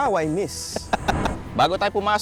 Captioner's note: laughing